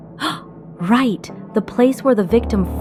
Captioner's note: gasps